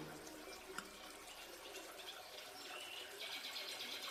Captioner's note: birds chirping